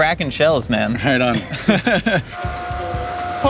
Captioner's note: laughs